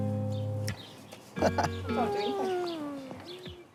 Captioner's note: chuckles